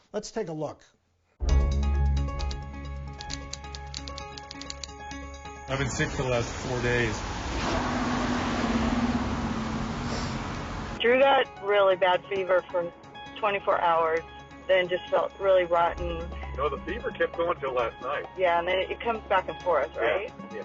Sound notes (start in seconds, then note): 1.5 suspense music; 7.9 wind whooshing